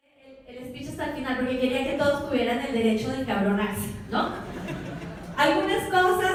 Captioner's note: audience laughter